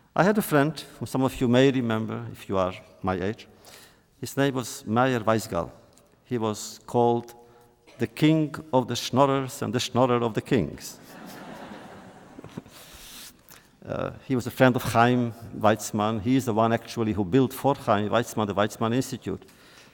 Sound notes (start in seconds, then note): 10.9 laughter